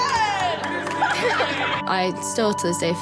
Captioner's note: laughing cheers